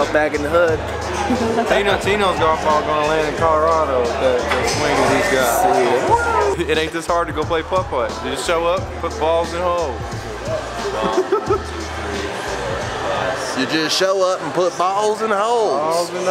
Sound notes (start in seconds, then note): 1.2 laughter; 11.0 laughter